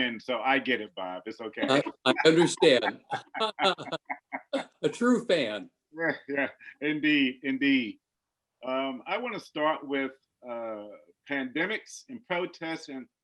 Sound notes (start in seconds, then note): 3.3 laughs loudly